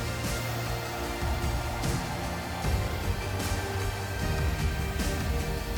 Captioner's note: blower whooshing; gentle upbeat music